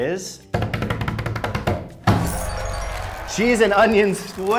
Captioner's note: drumming on the table